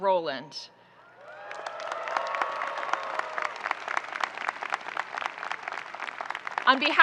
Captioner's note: audience cheering and applauding